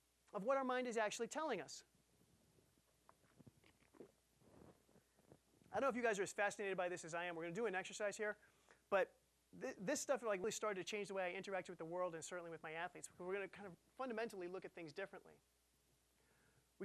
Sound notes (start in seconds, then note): none